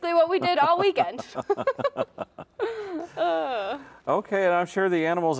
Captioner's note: laugh